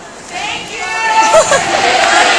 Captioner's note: audience member yells "Thank you."